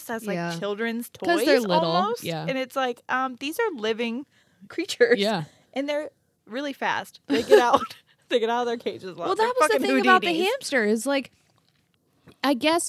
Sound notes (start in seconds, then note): 7.3 laughs